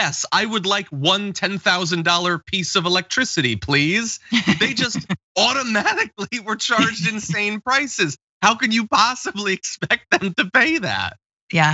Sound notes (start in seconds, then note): 5.3 laugh